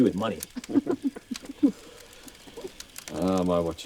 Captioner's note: laughter